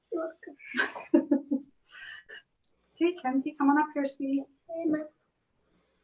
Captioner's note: laughs